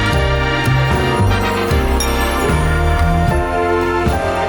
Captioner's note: cheers